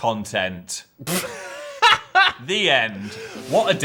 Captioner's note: laughing